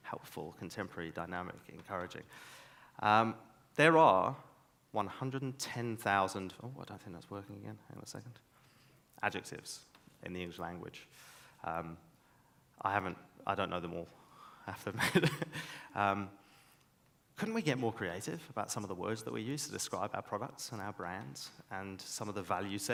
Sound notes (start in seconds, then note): 15.0 laughs